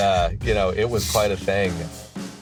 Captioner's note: laughs